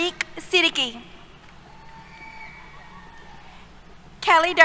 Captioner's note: cheers